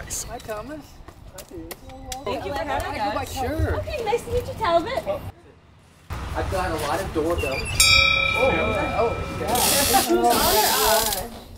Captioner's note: people chatting